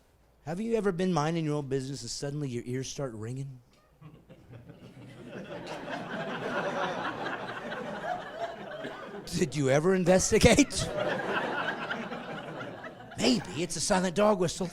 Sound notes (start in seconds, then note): 7.8 laughing